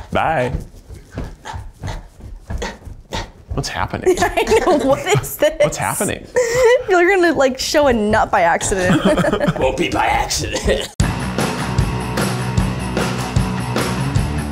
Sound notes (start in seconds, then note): 2.4 grunts; 10.8 upbeat music